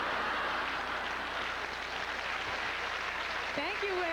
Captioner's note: laughter; growing applause